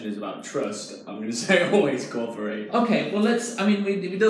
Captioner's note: laughs